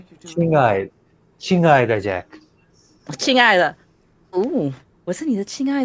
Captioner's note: speaks in foreign language